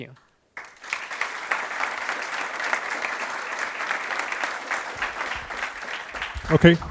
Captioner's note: applause